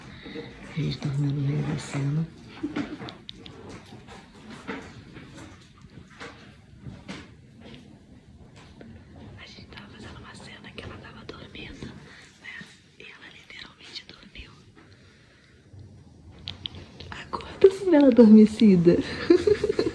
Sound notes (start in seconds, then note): 2.4 chuckles; 9.3 whispering; 19.0 chuckles